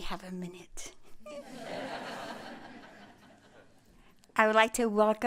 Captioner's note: laughter